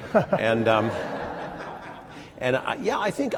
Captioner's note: laughter